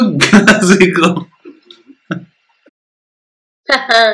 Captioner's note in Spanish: siguen riendo